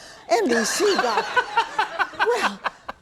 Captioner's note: laughing